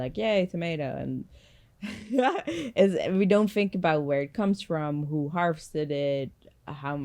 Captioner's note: laughs